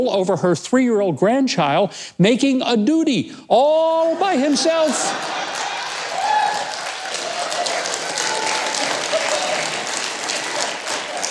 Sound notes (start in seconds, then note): 3.9 audience cheering